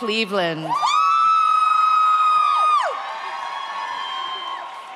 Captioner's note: audience cheers